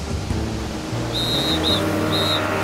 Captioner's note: whistle blowing